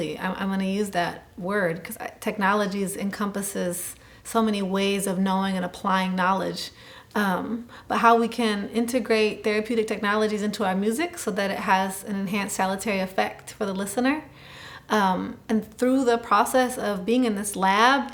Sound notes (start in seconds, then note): none